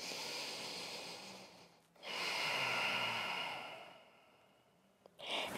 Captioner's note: deep inhale and exhale